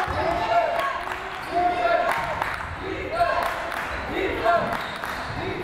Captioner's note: crowd chanting defense